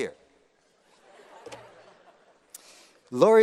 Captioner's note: laughter